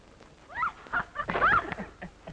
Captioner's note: screaming; laughing